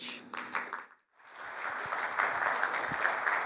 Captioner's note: applause